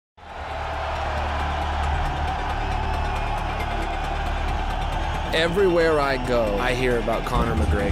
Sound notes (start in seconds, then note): 0.2 cheering